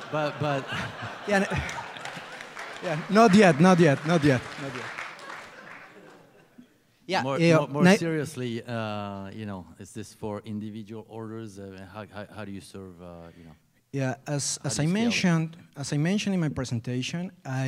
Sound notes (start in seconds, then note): 0.0 laughter; 0.8 applause